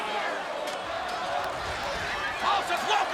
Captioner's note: audience cheers